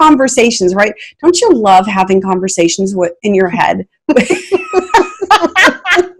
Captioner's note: laughing